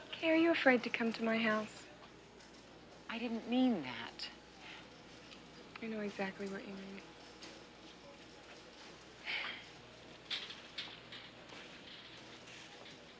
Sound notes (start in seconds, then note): 8.1 scoffs